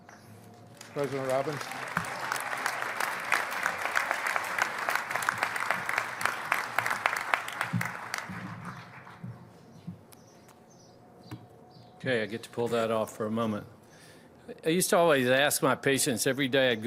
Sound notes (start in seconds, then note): 0.7 applause